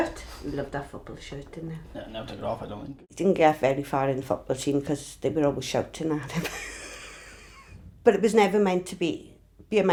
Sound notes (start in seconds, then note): 7.2 laughs